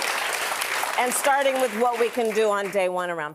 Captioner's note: applause